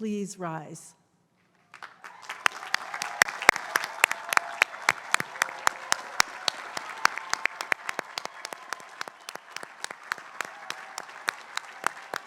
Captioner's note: applause